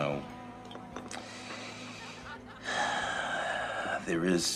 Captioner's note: sighs